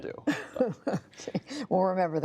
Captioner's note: laughter